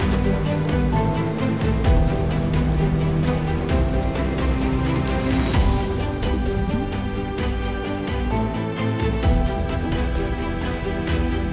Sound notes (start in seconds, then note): 0.0 waves splash; 7.9 underwater bubbles